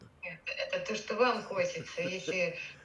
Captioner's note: laughing